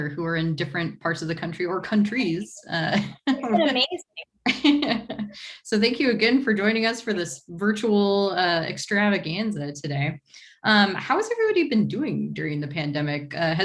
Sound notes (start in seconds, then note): 2.9 laughs